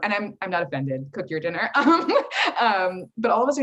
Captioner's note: chuckles